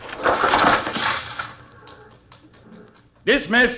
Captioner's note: tapping